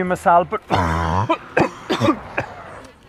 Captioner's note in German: hustet